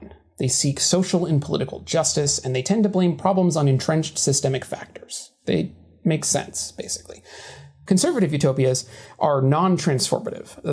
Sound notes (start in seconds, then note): none